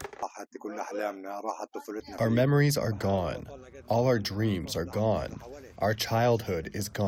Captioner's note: through translator